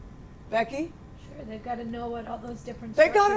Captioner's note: voiceover